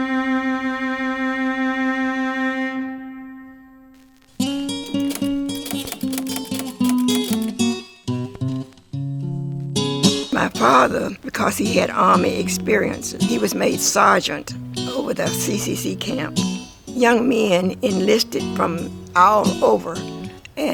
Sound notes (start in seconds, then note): 0.1 gentle violin music; 4.7 typewriter clatters; 4.8 buoyant music